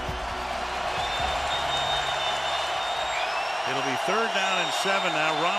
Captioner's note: crowd cheering